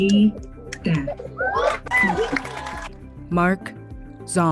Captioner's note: cheering